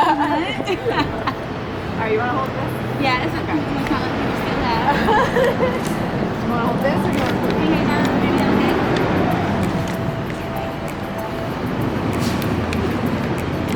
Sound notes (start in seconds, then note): 1.7 chattering and laughing; 6.5 upbeat music